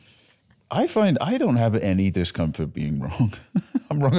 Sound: laughs

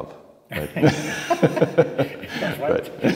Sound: laughing

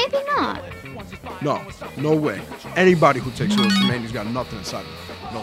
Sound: phone bleeps

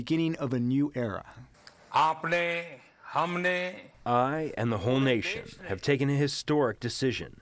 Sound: through translator

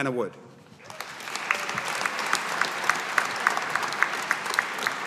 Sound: audience applauding

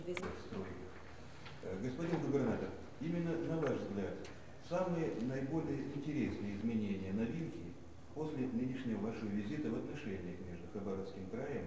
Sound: non-english speech

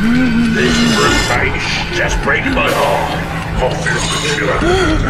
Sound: coarse Voice

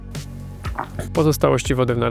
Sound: gulp

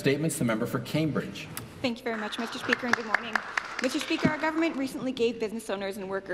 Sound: applause

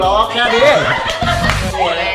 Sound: laughs

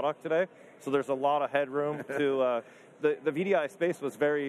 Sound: laughs

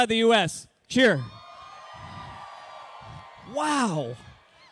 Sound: cheering

